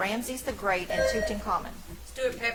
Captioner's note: bell ringing